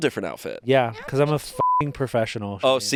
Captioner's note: beep